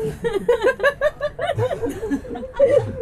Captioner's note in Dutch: verder gelach